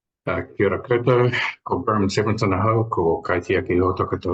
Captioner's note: speaks te Reo Māori